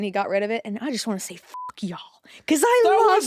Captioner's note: beeps